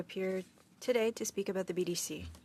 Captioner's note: speaking French